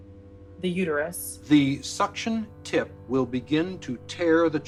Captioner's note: soundbite of documentary, "the silent scream"